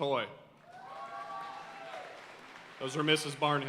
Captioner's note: audience cheering and applauding